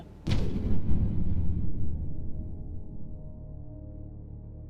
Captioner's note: boom